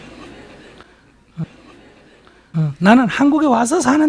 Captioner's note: audience laughter